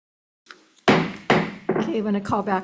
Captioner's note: gavel thuds